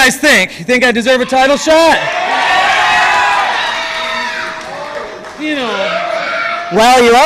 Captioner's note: fans cheer